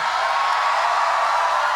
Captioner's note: applause